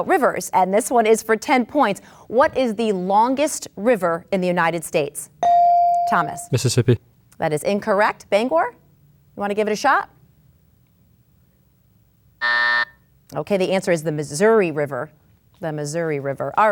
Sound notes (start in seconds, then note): 5.4 bell dings; 12.4 buzzer sounds